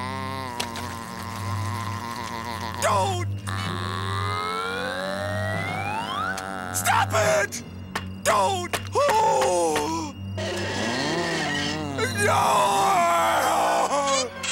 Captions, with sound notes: Don't! Stop it! Don't! [gasping] [groaning]